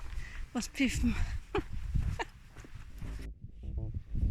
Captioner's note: laughter